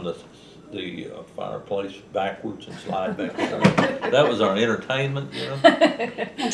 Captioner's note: laughter